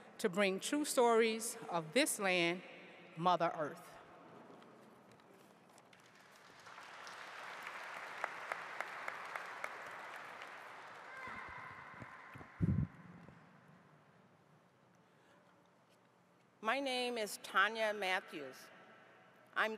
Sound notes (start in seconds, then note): 6.0 audience applauding